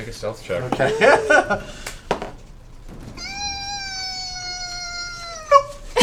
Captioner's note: squeaks